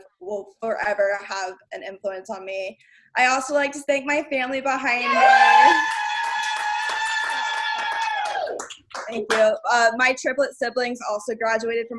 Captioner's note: cheers